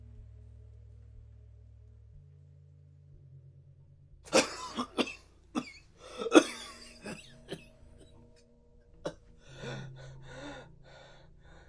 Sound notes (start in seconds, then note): 4.3 violent coughing; 9.0 gasping